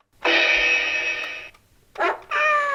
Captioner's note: drum sounds; button clicks; animal sounds